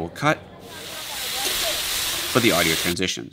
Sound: food frying

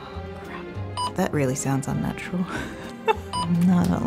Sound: laughs

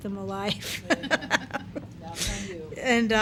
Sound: laughing

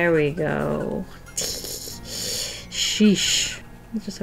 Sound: nervous laugh

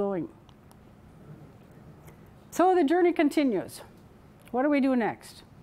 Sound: none

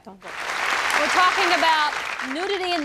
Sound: applause

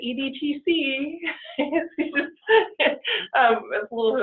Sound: laughing

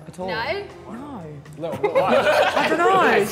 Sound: Sidemen laughing

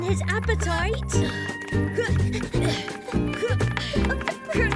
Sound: grunting

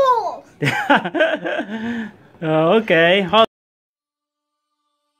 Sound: laughing

